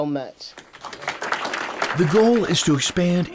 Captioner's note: audience applauding